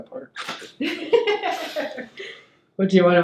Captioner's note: laughing